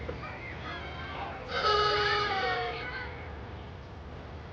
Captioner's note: crowd chattering